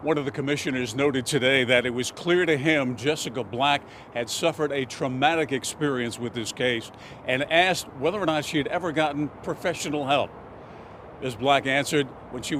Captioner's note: sniffles